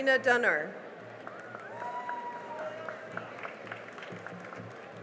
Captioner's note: cheering and applause